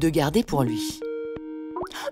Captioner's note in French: sonnerie Skype